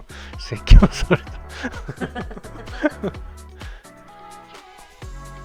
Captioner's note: laughs